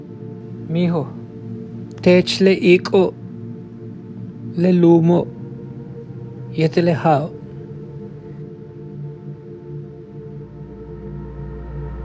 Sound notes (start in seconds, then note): 0.9 speaking foreign language